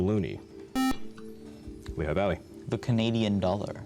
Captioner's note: buzzer